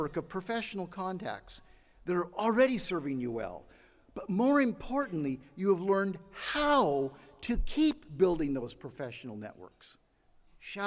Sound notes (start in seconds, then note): none